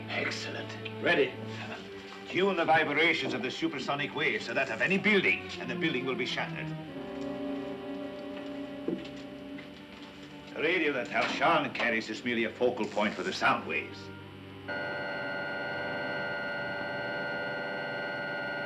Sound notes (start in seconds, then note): 14.3 buzzing